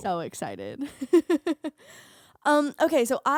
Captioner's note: laughing